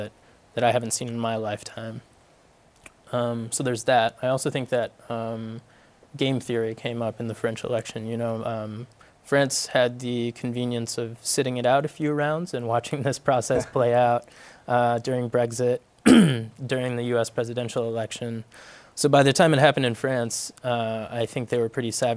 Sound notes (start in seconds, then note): 13.5 laughs